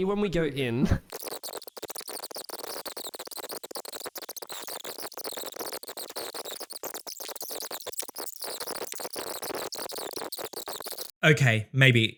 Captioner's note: tape fast-forwarding